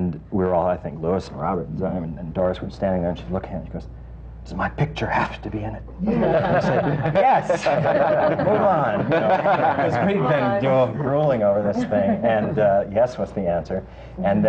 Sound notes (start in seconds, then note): 6.1 laughter